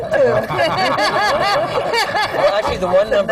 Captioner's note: laughter